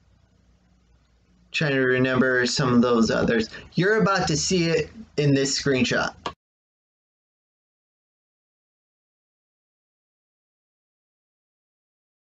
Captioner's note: click